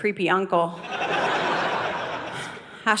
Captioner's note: audience laughing